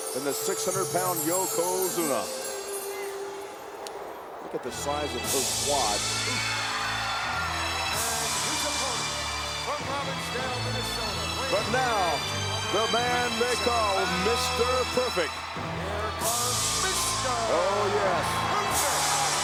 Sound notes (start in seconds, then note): 6.1 crowd cheers